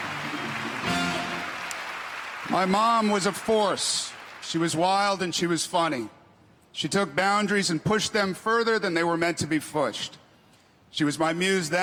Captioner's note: applause